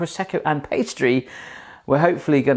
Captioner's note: heavy breathing